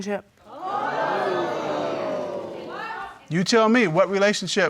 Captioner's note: audience exclaiming